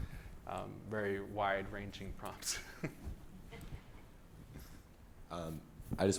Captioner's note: laughs